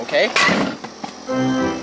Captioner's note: cans clattering